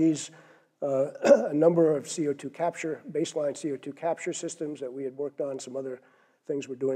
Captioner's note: cough